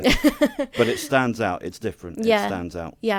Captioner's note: laughing